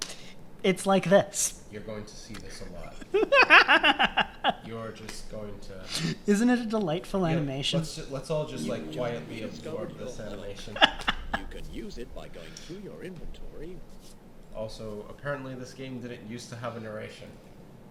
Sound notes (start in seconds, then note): 3.0 giggling; 11.5 cackling